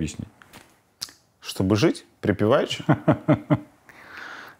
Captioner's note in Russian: Гордон смеется